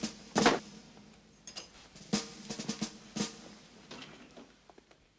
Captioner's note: none